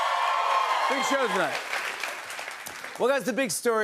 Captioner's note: cheers and applause